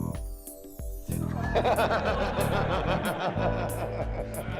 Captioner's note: crew laughing